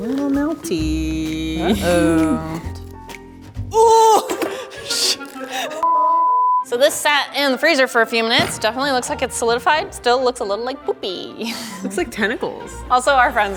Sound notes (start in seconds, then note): 4.4 yelling; 5.8 beeping